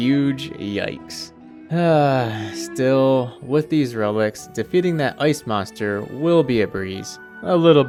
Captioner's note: sigh